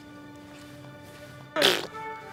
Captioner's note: spitting sound